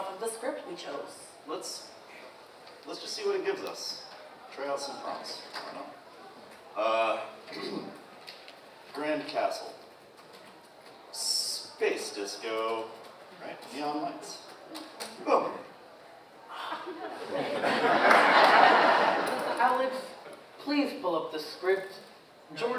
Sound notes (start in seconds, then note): 16.6 audience laughs